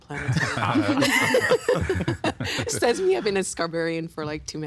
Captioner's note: all laughing